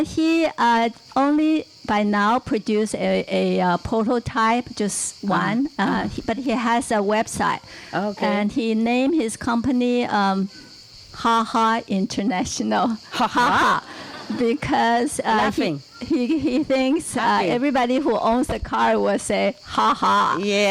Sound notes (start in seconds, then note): 15.5 laughing